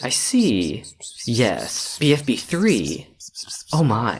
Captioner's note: X whispering sounds